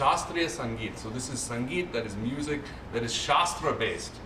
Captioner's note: non-english